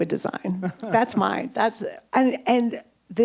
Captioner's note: chuckles